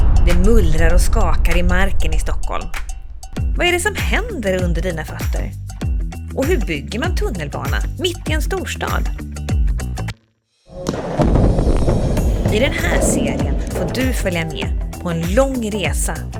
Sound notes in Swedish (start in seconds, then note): 10.7 explosion